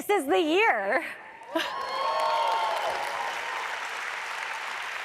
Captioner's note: audience applauds